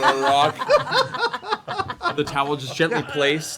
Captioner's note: laughter